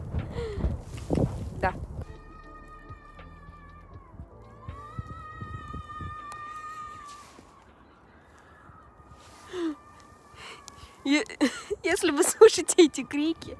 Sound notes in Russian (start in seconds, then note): 0.3 вздох; 2.5 звуки детской истерики